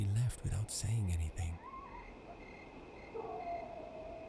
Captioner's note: dogs barking